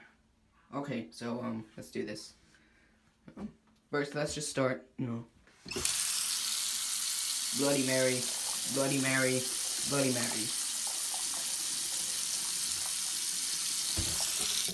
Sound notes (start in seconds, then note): 5.9 water turns on